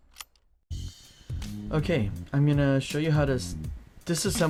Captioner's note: voiceover